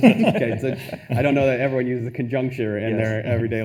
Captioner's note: attendees laughing